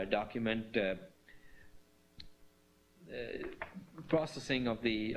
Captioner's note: pause